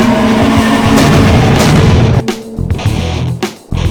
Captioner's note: beast roars; fists thud